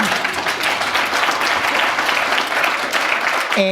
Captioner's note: applause